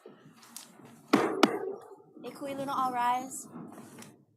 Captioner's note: gavel bangs twice